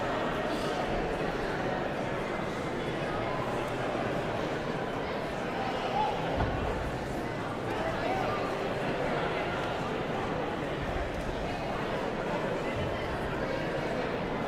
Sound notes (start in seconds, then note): 7.1 audience chattering continues